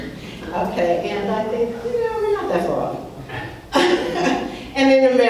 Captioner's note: laughs